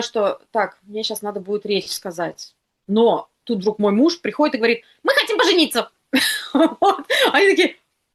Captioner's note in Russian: смех